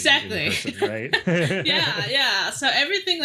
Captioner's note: laughing